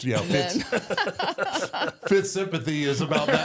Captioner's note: group laughs